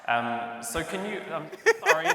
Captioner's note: speech echos